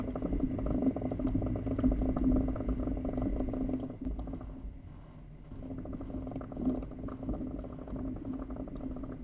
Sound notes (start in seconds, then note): 2.7 bubbling softens, steady white noise